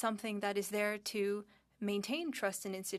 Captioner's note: speaking French